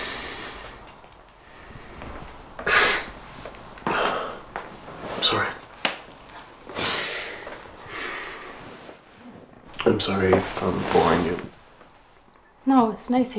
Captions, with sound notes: (Eddie inhales) (Eddie sniffs) I'm sorry. - No. - I'm sorry if I'm boring you.